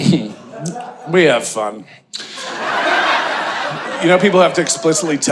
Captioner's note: audience laughing